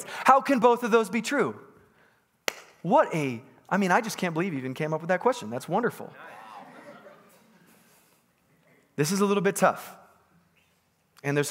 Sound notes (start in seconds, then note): 2.4 claps once; 8.2 congregants bustling